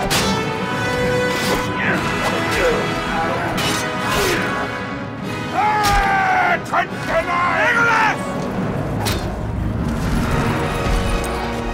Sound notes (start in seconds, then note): 5.4 shouts